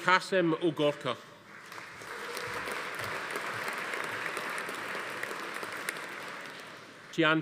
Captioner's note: audience applauding; attendee cheering